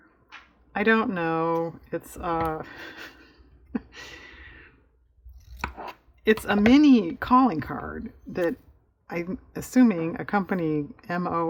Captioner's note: laughs